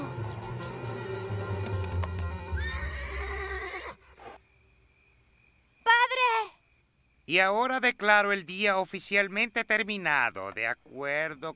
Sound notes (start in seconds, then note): 2.3 whinnies